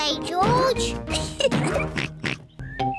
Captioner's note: laughs; oinks